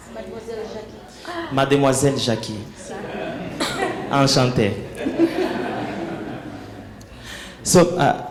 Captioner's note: laughing